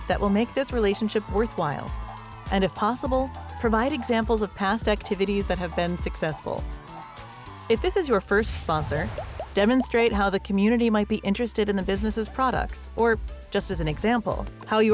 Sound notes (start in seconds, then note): 6.8 people cheering